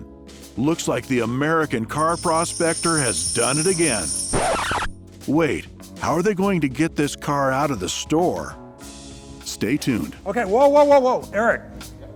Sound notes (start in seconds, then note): 4.5 scratch sound